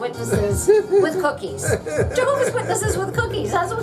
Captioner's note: laughs